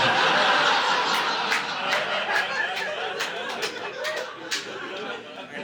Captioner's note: audience laughing